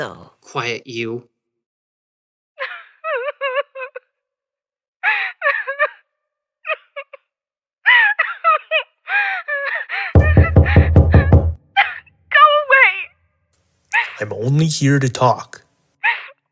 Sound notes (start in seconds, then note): 2.4 Heather is sobbing in her trailer; 10.1 Christopher knocks on her door